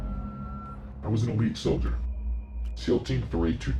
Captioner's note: disguised voice